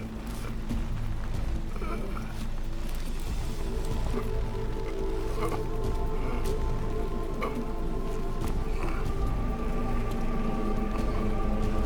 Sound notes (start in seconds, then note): 1.1 grunting; 5.8 dramatic music